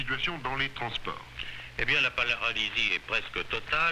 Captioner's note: french news report